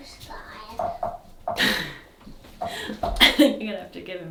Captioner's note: speaking faintly off mic